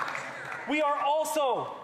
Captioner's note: some applause